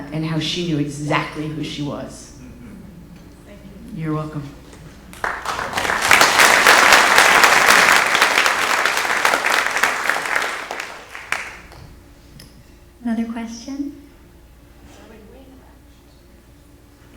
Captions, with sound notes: and how she knew exactly who she was. You're welcome. (audience applauds) Another question?